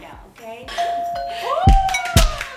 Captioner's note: doorbell Rings; cheering, Applause and Laughter